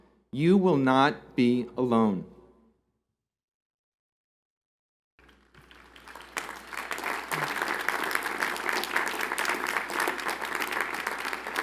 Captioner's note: applause